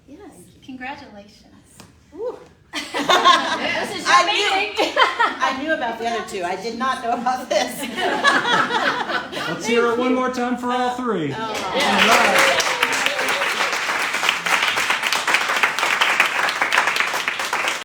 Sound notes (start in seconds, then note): 2.7 laughter; 15.0 cheering and applause